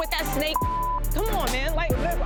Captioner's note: beep